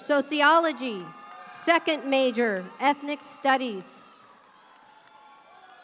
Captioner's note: audience cheering